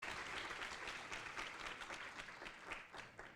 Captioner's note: applause